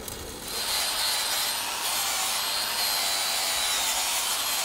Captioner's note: grinder whirring